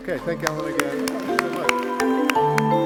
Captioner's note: applause